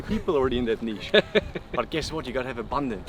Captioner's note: laughs